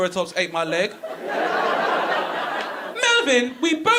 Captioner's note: audience laughing